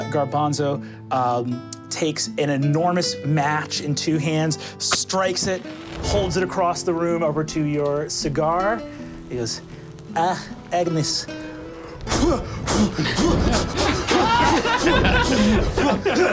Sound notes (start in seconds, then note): 10.6 puffing; 12.6 group laughing